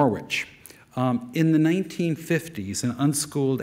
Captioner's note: none